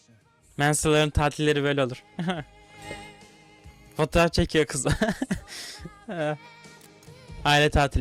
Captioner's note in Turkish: kahkaha